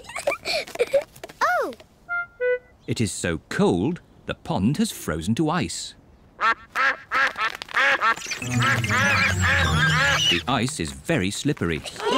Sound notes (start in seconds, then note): 0.0 giggles; 6.3 all quack